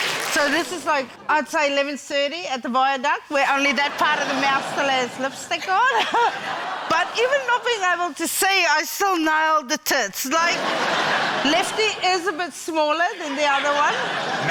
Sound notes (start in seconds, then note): 5.6 chuckles; 10.3 laughter